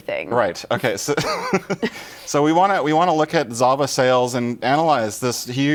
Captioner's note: laughter